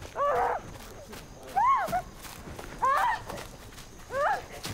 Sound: Rosemary screaming

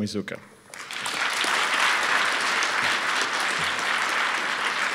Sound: audience applauds

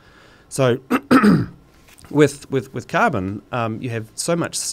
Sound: clears throat

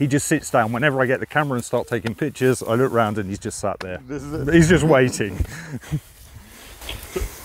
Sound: laugh

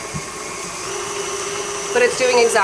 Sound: beater whizzes

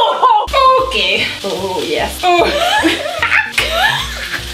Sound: laughs

